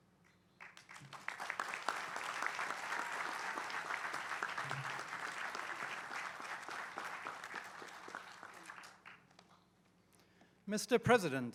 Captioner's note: applause